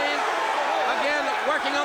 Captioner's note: crowd cheering